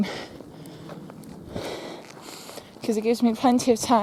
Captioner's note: breathes heavily